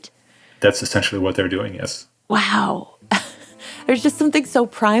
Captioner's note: laughs